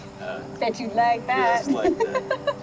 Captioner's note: laughs